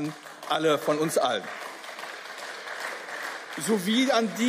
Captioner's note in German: Beifall